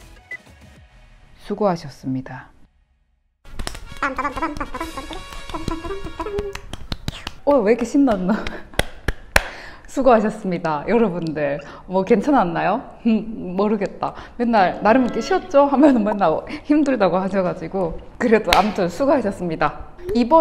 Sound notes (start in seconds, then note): 4.3 clap clap clap!!!